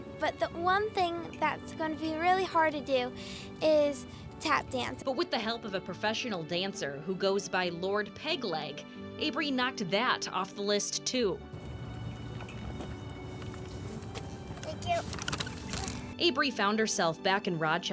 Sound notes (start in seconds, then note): 4.2 nat: chair rolls up, thank you, sits